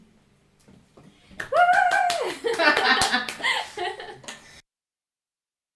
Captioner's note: applause, laughter